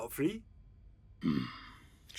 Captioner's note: Nedward grumbles